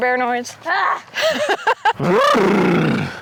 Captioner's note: laughs; makes lip trilling noise; growls